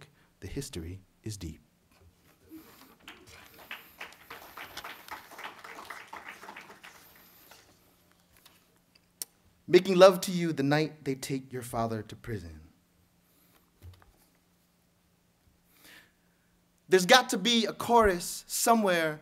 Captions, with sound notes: the history is deep. [clapping] Making Love To You The Night They Take Your Father To Prison. There's got to be a chorus somewhere